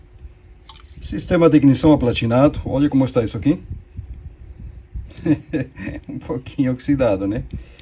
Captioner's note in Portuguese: risadas